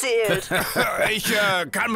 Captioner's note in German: kichert